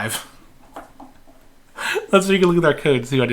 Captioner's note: laughing